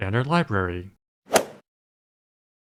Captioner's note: swoosh